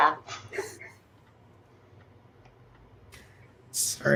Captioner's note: laughing